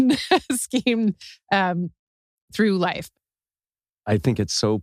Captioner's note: laugh